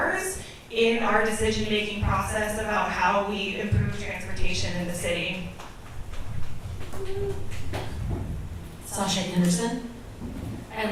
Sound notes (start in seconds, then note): 6.4 select audience members clap